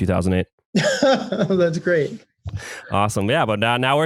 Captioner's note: laughs